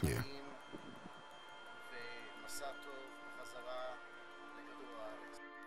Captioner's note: speaking hebrew